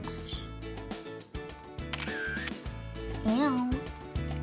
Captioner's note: camera flash